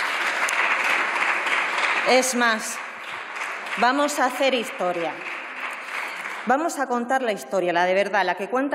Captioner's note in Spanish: Aplausos